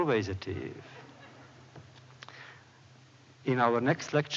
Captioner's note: laughter